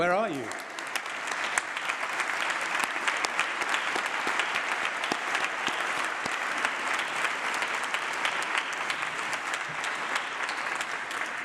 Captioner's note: applause